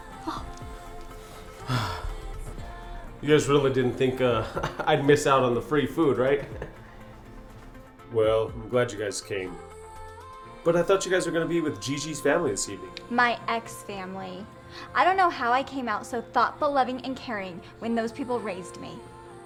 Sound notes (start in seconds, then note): 1.6 Homeless Hugh sighs; 6.4 Homeless Hugh chuckles